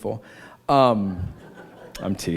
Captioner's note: laughter